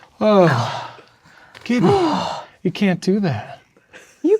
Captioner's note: sighs